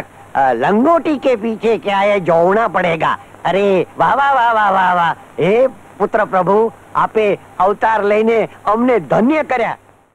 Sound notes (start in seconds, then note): none